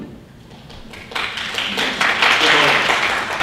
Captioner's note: audience applauds